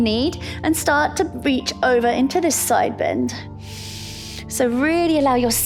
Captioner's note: inhales